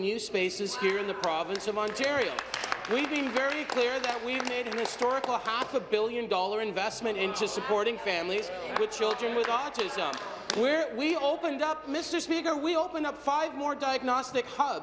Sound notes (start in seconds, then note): 6.1 applause